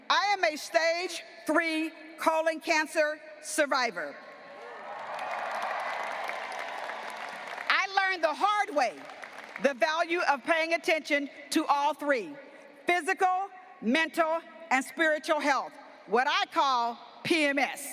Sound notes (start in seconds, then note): 4.6 graduates applauding and cheering